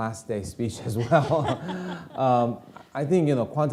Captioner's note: laughing